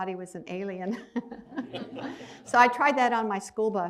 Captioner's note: laughs